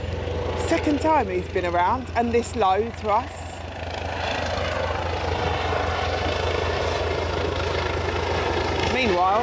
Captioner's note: helicopter overhead